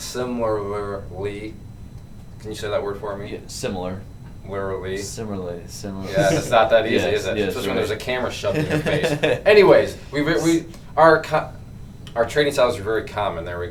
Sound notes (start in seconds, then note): 8.4 laughs